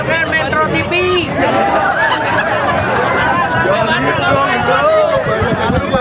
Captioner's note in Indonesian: tertawa